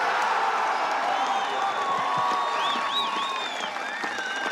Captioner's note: crowd cheering and applauding